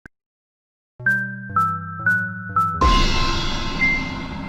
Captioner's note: magical chiming